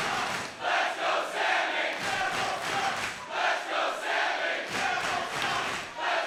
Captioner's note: crowd chants "Let's go, Sami/Neville sucks"